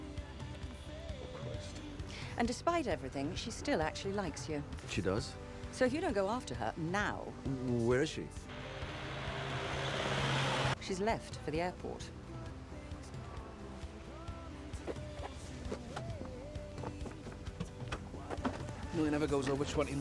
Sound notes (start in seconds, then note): 8.4 engine rumbling